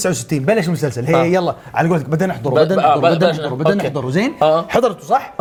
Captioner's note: sarcastically